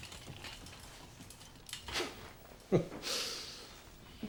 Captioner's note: chuckles